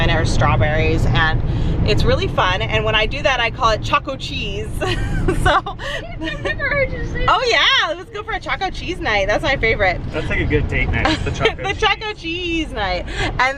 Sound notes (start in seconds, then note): 10.1 laughs